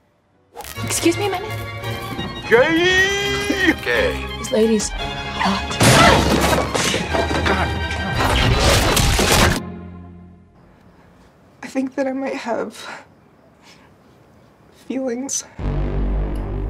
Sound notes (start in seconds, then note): 3.3 crashing and explosions; 3.3 frantic music continues; 15.6 dramatic reverb